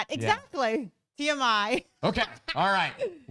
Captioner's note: laughs